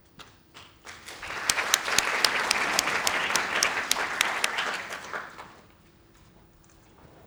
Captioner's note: applause